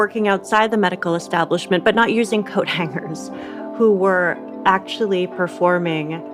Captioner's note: laughs